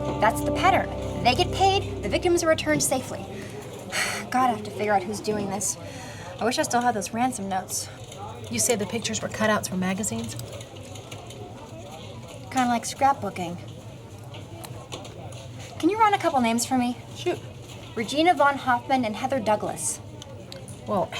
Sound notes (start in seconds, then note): 4.0 sighs